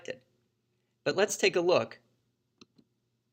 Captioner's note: click